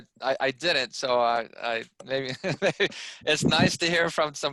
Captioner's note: laughs